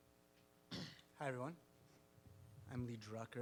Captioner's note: clears throat